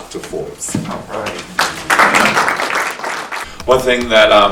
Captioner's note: audience applauding